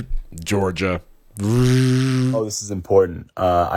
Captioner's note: buzzing